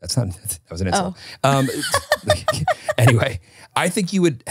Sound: laughing

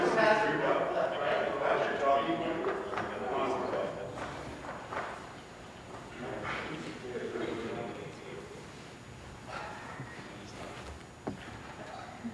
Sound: mixed voices

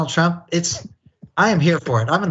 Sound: laugh

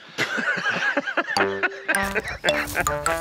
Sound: Conan laughing; whimsical music

